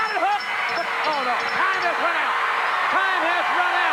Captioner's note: bell ringing